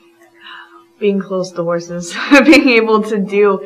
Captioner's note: laughs